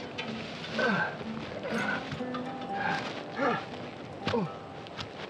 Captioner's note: Dave groaning